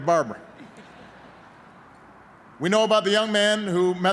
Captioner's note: laughter